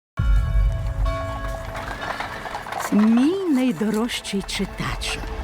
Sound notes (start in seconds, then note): 0.4 bell tolling; 1.6 horses neigh